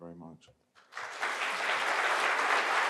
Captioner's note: applause